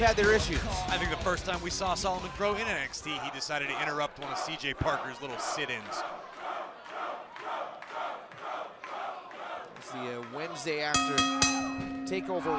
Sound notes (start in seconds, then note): 9.2 fans chanting